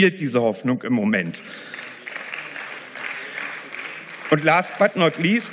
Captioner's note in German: Beifall